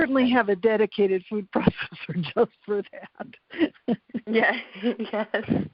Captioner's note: laughs